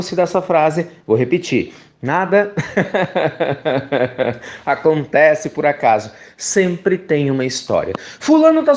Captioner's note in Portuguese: risos